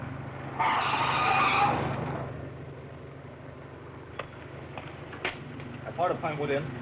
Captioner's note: tires screech